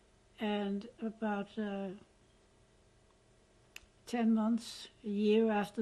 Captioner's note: pauses for 3 seconds